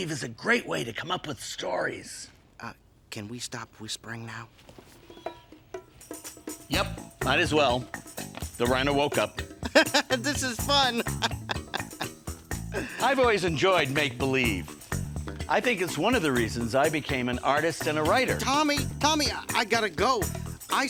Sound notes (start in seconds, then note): 9.3 laughing; 11.6 upbeat music